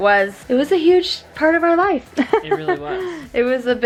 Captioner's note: laughing